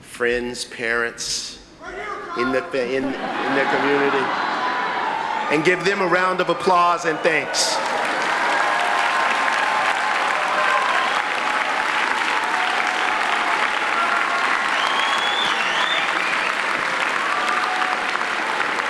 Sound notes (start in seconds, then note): 2.9 laughing; 8.0 applauding